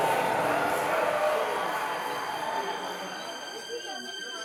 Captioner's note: audience cheering; dramatic music